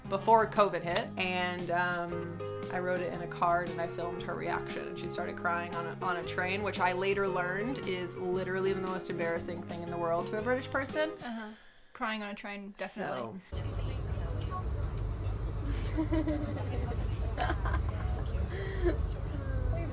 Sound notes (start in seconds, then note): 13.5 p*ssengers chatting; 15.6 laughing